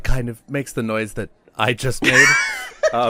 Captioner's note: laughs